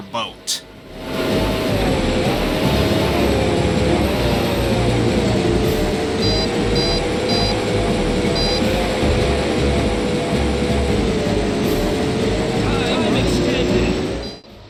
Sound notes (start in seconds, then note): 0.6 game audio mostly drowned out by the boat engine